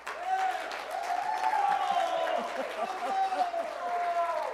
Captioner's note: applause